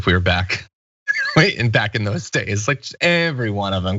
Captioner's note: laugh